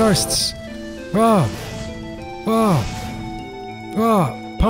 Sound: accurate magic noises

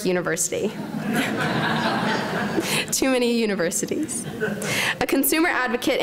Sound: laughter

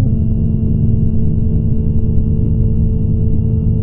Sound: tone shifts lower

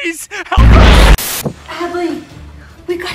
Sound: TV static

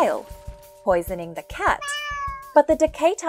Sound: cat meowing

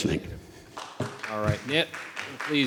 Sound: audience applauding

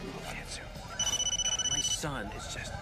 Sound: phone ringing

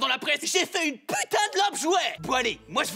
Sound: shrill voice

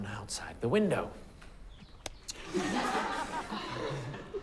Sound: laughter

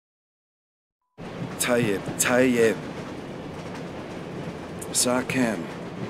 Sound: speaking in foreign language

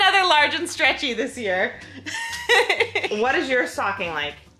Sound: laughing

